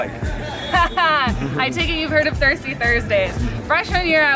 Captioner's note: laughs